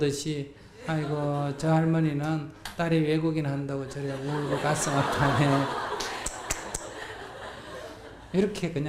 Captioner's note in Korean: 청중 웃음